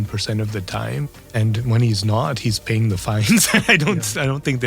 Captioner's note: laugh